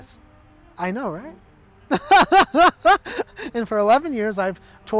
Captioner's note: laughs